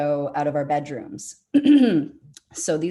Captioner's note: clears throat